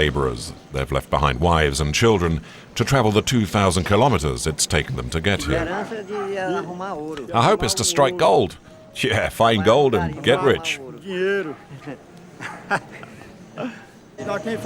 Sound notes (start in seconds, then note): 11.1 Portuguese spoken audio